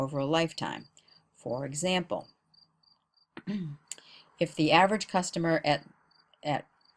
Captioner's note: cough